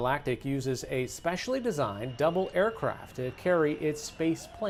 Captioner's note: applause